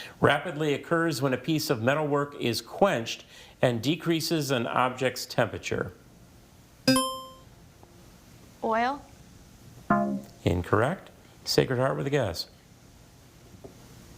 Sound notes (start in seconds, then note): 6.9 buzzer chimes; 9.9 tone clunks